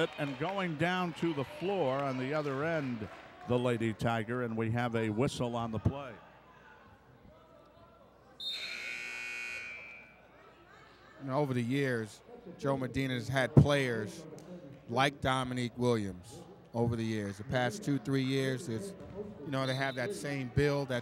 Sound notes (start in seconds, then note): 8.5 buzzer sounds